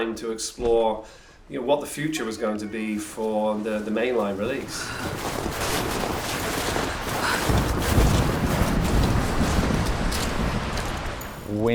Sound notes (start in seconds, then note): 7.0 Lara panting; 8.9 wind blowing